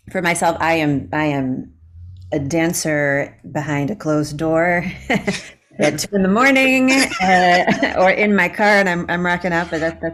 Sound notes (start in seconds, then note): 5.1 laughing